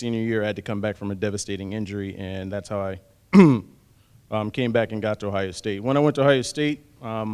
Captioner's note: cough